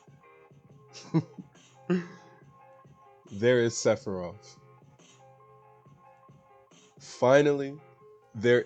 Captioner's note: laughs